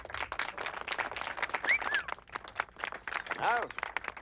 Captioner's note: crowd applauds and whistles